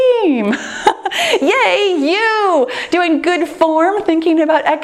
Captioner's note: laughs